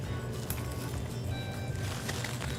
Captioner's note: soft rock music; leaves crunching